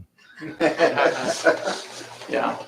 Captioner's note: laughter